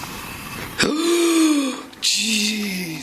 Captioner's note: gasping; hissing; gasping